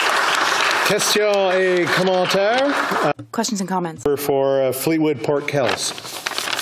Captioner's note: applause